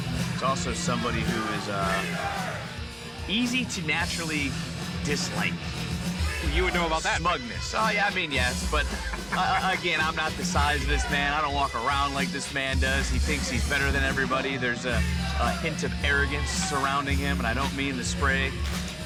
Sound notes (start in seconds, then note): 8.3 laughing